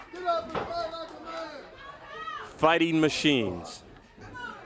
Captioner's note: crowd chatter